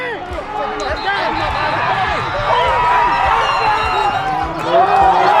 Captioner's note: whistle; celebrating